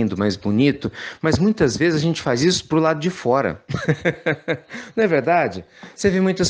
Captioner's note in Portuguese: risos